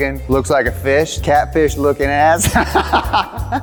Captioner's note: laughs